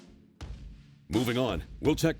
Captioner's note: voiceover